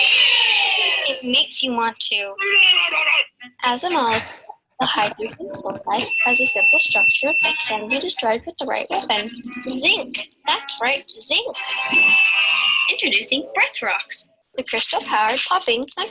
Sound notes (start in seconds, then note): 2.5 person belches; 11.6 triumphant music